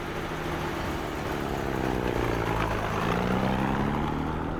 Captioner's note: jeep rumbling